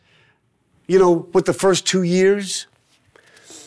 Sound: none

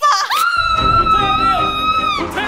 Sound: screaming

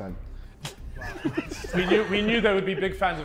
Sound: Sidemen laughing

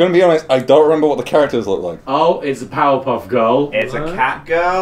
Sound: none

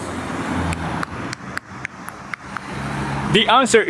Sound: makes tick-tock sound

